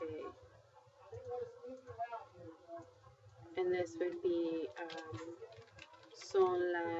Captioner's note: speaking spanish